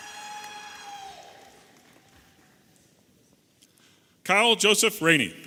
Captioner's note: audience applauding and cheering